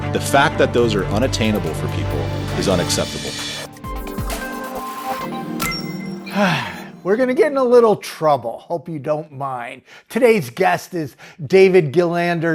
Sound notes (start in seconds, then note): 3.7 bright electronic music; 6.2 sighs